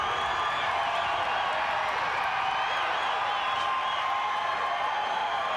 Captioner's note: crowd cheering continues